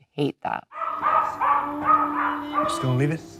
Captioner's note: dogs barking